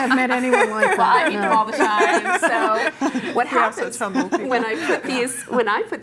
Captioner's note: laughter; laughter